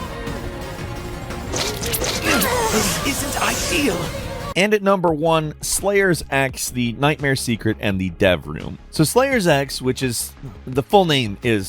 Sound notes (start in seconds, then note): 2.1 characters groan